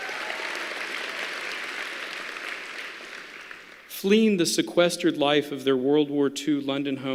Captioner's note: applause